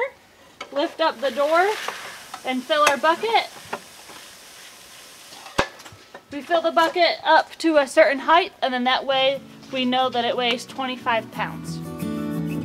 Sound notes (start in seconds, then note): 3.6 grain rumbles; 12.4 uplifting country music